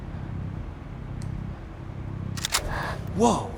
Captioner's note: gun cocks